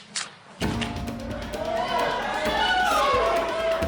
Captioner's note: shouting